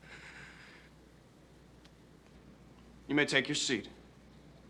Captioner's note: Kate sighs